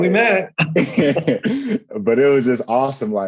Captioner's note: laughter